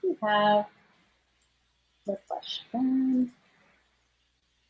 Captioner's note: none